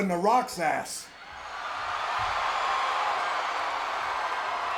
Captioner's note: audience cheering